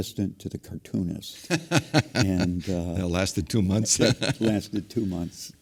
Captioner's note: laugh